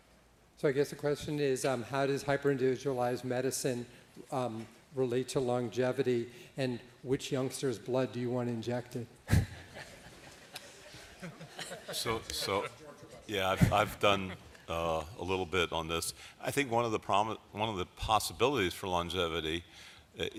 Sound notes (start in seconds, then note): 9.2 laughter